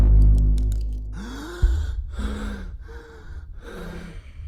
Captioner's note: heavy breathing